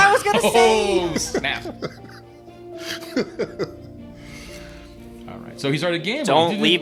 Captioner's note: indistinct chattering and laughing